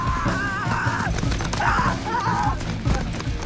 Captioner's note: boys scream